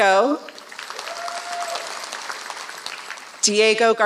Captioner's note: applause